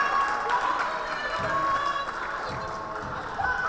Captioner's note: cheering